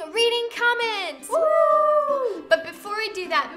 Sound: both cheer

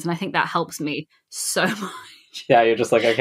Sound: laughing

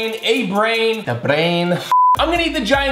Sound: beep

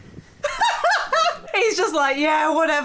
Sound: laughing

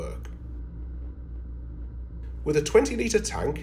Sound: drone humming

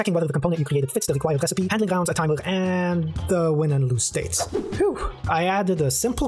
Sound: phew

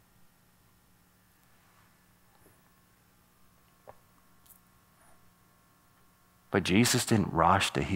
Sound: short pause

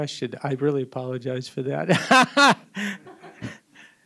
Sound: laughs

